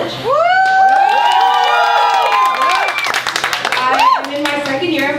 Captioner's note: applause